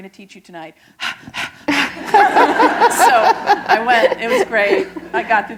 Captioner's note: laughter